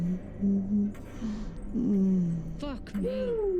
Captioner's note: dialogue echoes